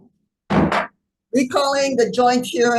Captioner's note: gavel thudding